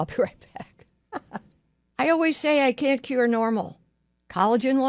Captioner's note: laughs